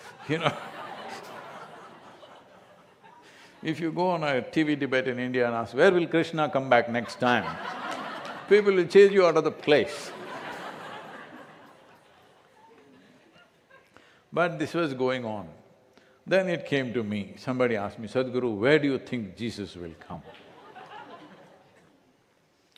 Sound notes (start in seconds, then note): 0.9 laughter; 13.0 laughter; 20.2 few laugh